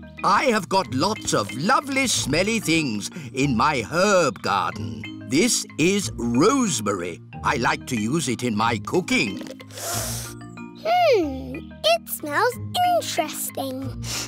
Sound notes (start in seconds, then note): 9.6 sniffs; 14.0 sniffs and coughs